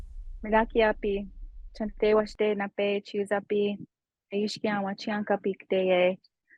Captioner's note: speaking Native language